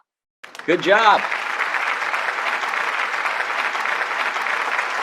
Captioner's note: applause